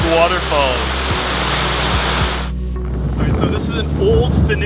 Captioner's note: water rushing